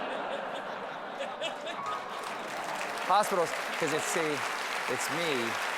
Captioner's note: laughter; applause